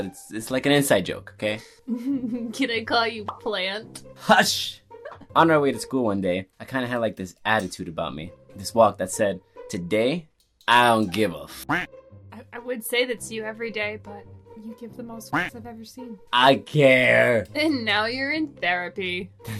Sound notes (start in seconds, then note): 1.9 laughs; 5.0 giggles; 11.6 duck quacks; 15.3 duck quacks